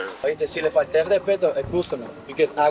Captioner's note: suspect speaking Spanish